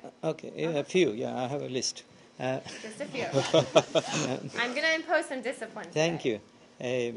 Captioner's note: laughter